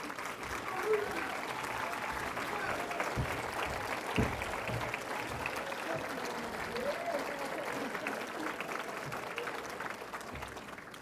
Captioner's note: cheering & Applause